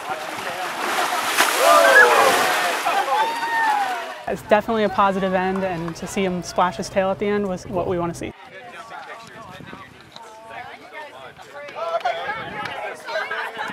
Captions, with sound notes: (BIG tail-splash noise) - Whoa! (cheering) It's definitely a positive end, and to see him splash his tail at the end was what we want to see. (people chattering)